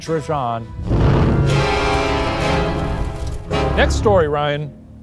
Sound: intense music; smoke whooshing

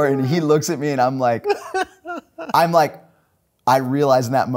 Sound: laughing

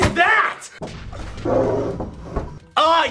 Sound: zombie growls

